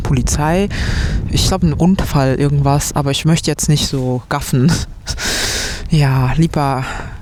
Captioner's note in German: japst